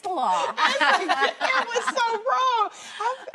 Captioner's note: laughing